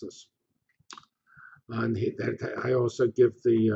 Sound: pause

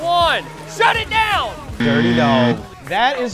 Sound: buzzer

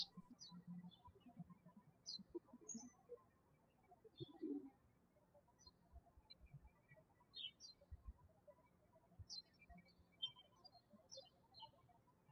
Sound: birds chirping

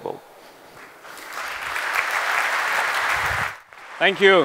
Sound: applause

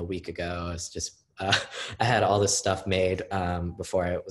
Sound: laughing

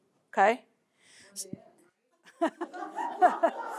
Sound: laughter

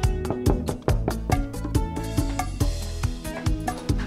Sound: door knocking

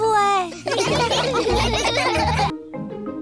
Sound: all laugh

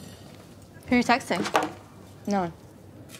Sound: phone slams

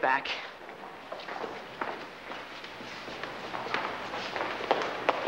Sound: footsteps clacking

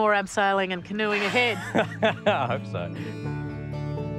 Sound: laughs

